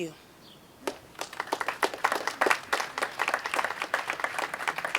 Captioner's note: audience applauding